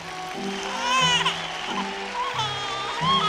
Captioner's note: cheers and applause; baby crying